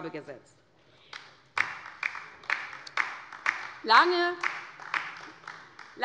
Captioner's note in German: Beifall bei der LINKEN